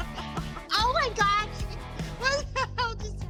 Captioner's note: laughing